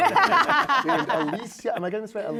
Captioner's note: laughter